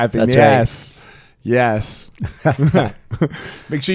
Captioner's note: laughing